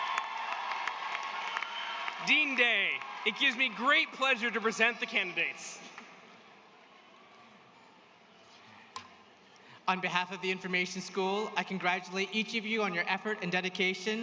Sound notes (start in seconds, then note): 0.0 cheers and applause